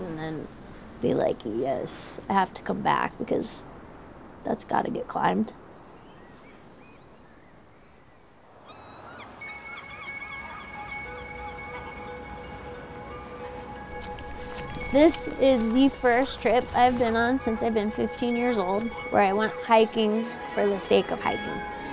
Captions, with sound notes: and then be like, yes, I have to come back, because that's got get climbed. (birds chirping) (bird cawing) (bells chiming) This is the first trip I've been on since I've been 15 years old where I went hiking for the sake of hiking.